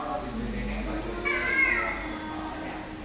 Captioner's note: meow meow